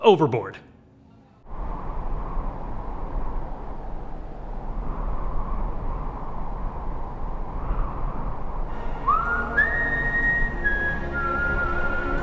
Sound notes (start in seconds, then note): 1.9 wind blowing; 8.9 man whistles